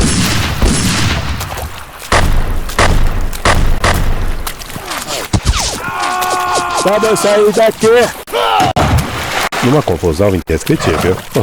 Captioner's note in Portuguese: grito